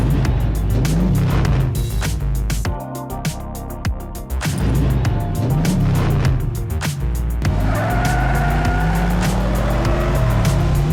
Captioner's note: engine revs